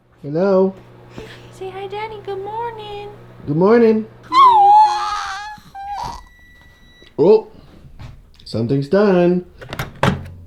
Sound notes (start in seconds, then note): 4.3 babbles; 4.4 microwave beeps